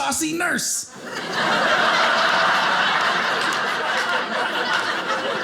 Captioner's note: audience laughing